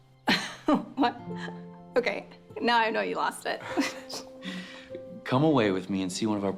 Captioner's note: laughs